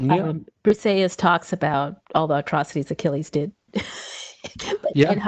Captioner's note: laughs